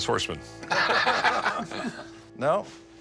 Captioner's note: laughter